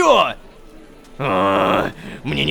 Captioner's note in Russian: Гр-р-р-рх!